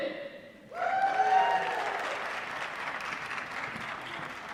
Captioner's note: applause